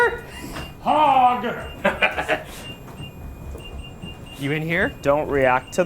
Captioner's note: Ryan laughing